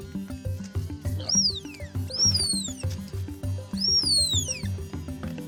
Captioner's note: tapir screeching; dynamic music